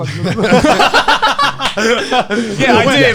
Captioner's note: men laugh